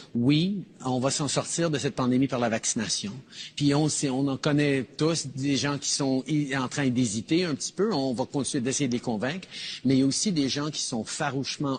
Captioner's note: speaking in French